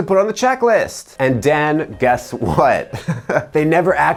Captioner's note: chuckles